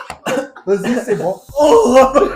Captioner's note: screams in pain